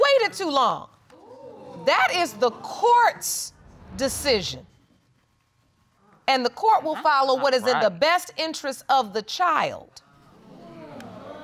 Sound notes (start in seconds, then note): 2.4 audience exclaiming